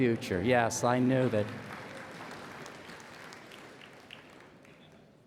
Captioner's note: laughs and applause